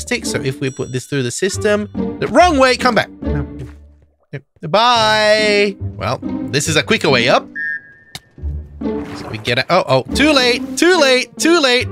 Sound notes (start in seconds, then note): 3.2 inatriculate grasping for words